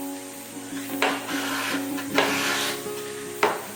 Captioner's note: sound of hitting with a hammer